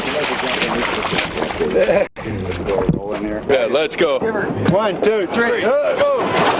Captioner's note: indistinct chatter